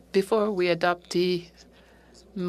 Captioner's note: speaking French